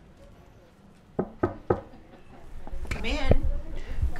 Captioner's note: knock